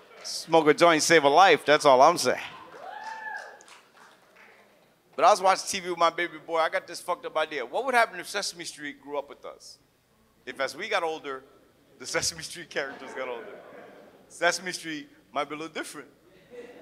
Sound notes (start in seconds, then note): 3.3 audience cheers and laughs; 16.5 audience laughs